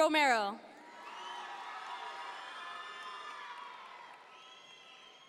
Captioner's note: audience members cheer